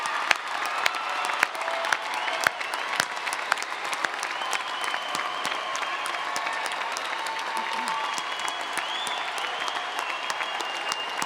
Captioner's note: cheers and Applause